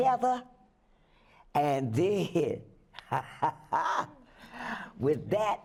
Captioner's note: laughs